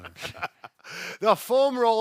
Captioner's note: laughing